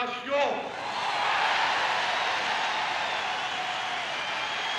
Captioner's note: crowd cheers